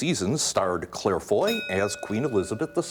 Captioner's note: ding